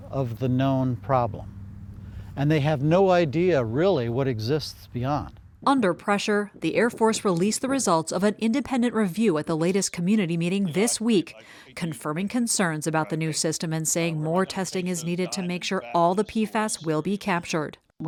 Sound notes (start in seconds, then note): 6.1 voice-over